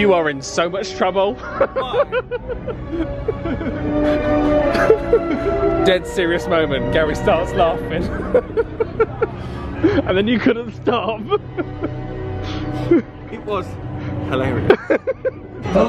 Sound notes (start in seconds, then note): 1.3 laughs; 12.6 laughing; 14.5 still laughing